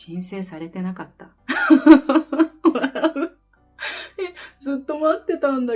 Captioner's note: laughs